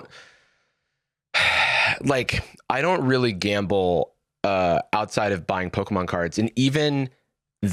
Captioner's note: sighs